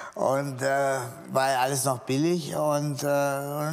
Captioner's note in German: none